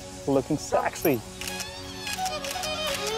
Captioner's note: Camera clicks